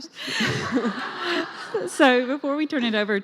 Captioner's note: laughing